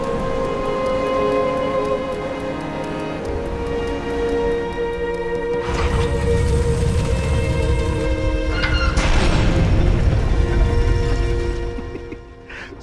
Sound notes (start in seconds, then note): 8.5 door slamming shut; 11.6 laughing